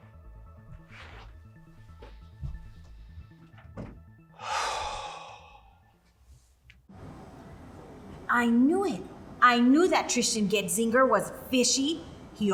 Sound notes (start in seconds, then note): 0.0 soft tense music; 4.3 Tristan sighs deeply